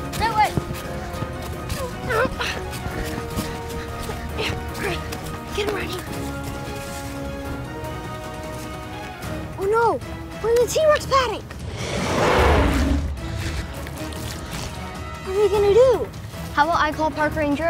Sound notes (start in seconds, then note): 1.8 Opie grunting; 11.6 dinosaur roaring